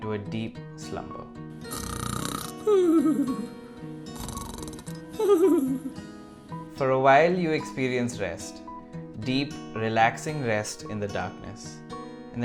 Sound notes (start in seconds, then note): 1.6 Timbo snores